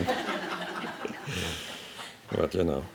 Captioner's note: laughing